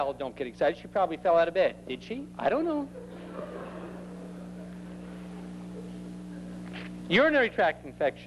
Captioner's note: more laughter